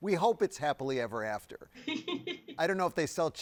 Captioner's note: laughs